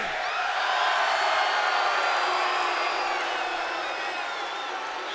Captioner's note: crowd cheers and boos